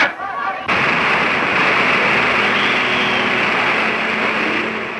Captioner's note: rushing water